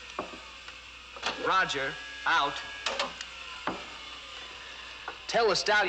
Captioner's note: button Clicks, Whirring Slows Down; button Clicks, Whirring Stops